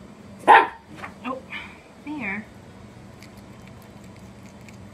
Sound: dog barks

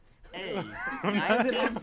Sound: hosts laugh

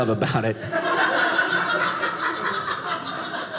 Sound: audience laughing

